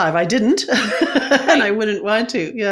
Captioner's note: chuckles